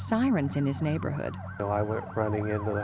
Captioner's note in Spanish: sirenas de fondo